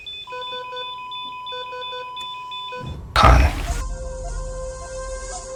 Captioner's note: machine beeps